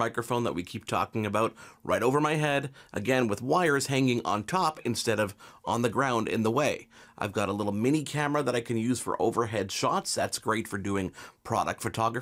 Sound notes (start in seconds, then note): none